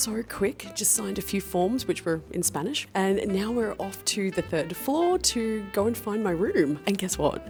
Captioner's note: in Spanish